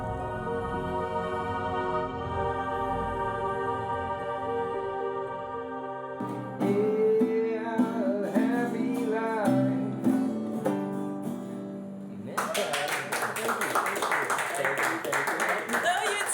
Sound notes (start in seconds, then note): 0.0 mysterious music; 12.3 audience applauding